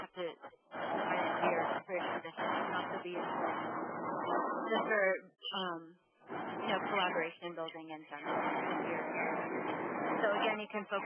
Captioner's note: audio feedback